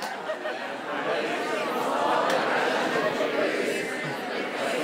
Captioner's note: crowd